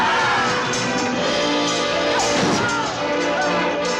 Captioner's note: yelling